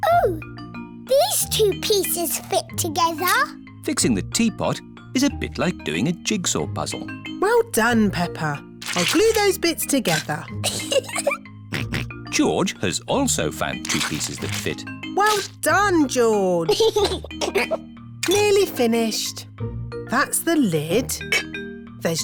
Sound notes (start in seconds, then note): 10.6 giggles; 11.7 snorts; 16.6 giggles